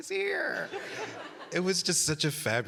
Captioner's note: audience laughing